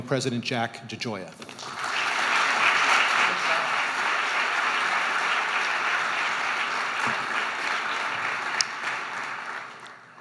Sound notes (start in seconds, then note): 1.5 audience applauding